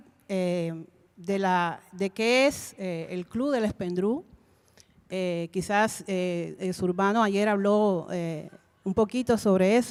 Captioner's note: Spanish language 00:32:52